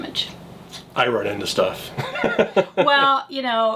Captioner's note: laughs